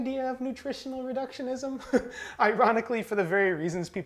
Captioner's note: chuckling